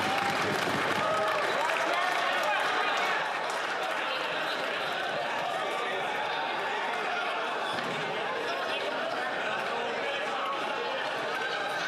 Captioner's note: some Applause